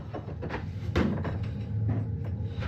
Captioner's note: banging